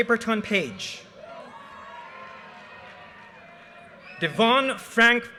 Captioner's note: audience cheers and applause